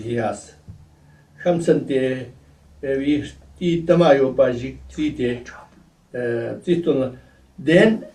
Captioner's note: tibetan